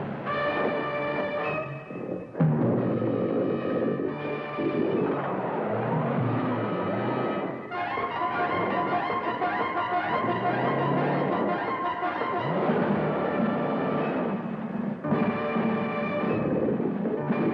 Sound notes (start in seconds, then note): 0.2 intense music; 3.4 growling